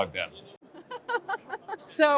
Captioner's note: laughs